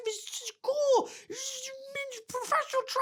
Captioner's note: mumbles